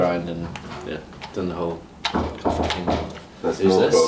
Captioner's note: knock on door